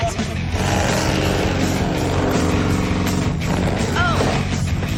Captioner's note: engine revving